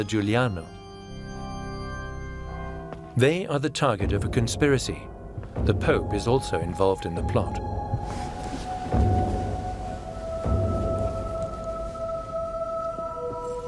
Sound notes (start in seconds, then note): 0.0 organ music; 1.9 church bells toll